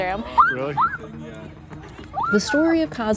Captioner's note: kids screaming